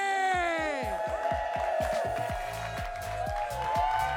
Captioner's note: audience cheering